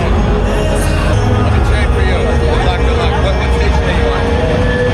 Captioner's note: conversation in English